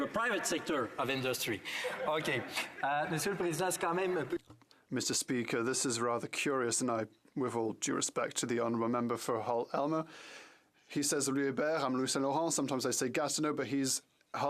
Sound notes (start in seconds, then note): 5.1 some Applause; 8.3 speaking French